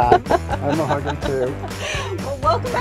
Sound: laughs

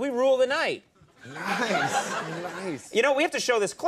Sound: audience laughing

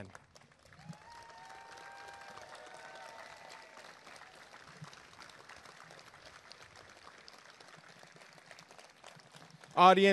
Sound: applause and cheering

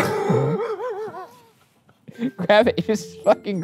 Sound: laughing; laughs

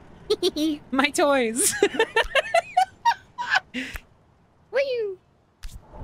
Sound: whimsical Giggle; laughter

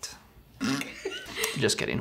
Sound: laughs

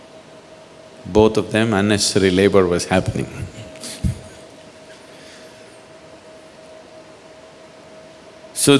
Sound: laughs

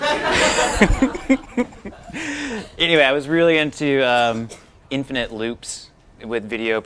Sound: laughter

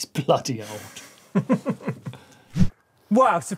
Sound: both laughing

